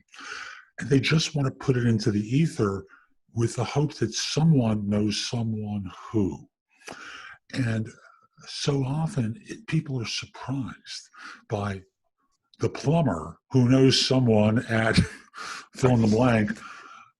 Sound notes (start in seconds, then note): 14.6 chuckles